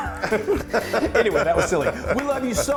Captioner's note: laugh